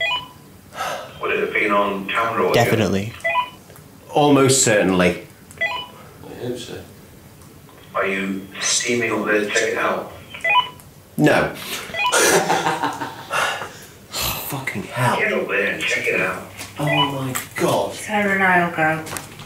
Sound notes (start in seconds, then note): 11.9 laughing